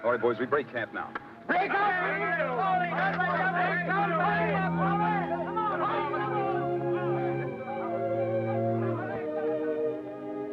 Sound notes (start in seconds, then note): 4.0 men yelling; 7.2 gentle somber music